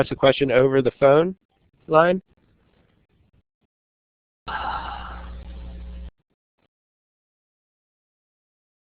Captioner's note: pause